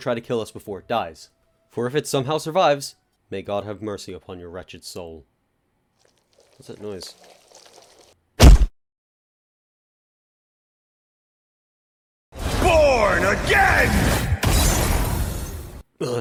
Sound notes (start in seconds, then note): 6.0 rustling in background; 8.4 thud